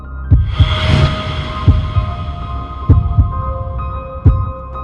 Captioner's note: heartbeat thumping